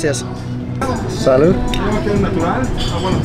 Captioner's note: glass clinking